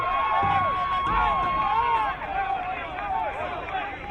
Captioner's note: crowd cheering